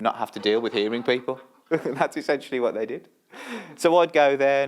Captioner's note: laughter